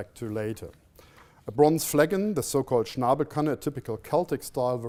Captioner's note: non-english speech